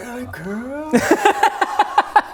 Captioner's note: brutally honest laughter